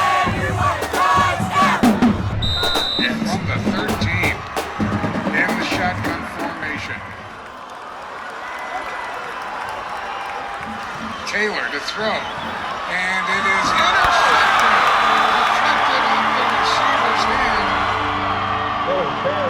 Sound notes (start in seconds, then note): 3.4 radio Announcer; 11.9 radio Announcer; 16.0 cheering; 16.1 somber music